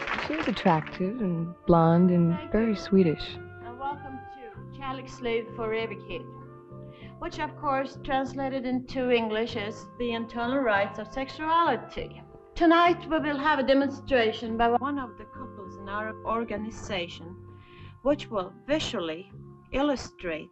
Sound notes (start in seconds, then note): 5.3 speaks in Swedish